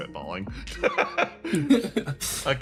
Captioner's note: laughs